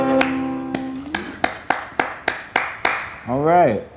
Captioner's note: clapping hands